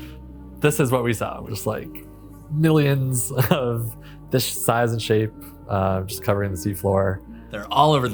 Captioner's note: laughs